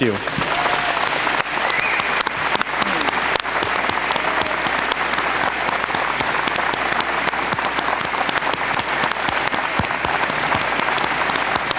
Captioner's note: applause